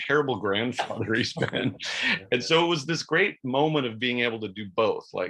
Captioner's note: chuckles